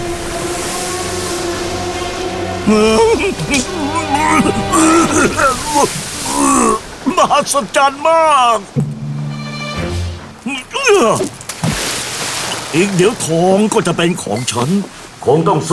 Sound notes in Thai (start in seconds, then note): 10.4 ออกแรงฮึบ; 11.3 เสียงสมอเรือกระแทกน้ำ